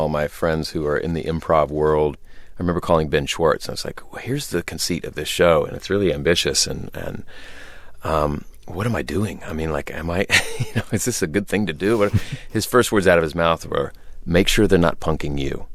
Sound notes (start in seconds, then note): 10.1 laughter